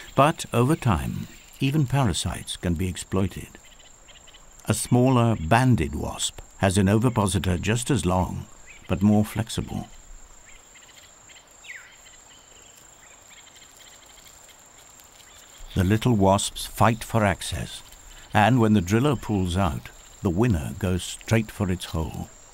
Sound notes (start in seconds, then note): 9.8 birds chirping; 22.3 birds chirping